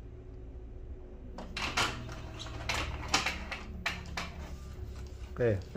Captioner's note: printer machine sound